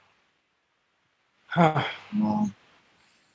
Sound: sighs

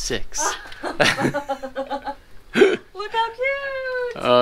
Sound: laugh

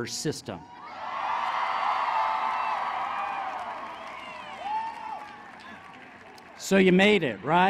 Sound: applause

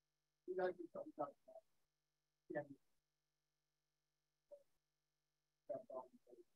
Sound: speaker speaking in foreign language

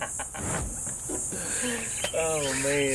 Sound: laughing

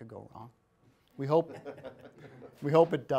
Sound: people laughing

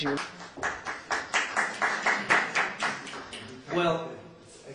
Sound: applause

